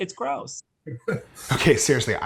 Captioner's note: laughing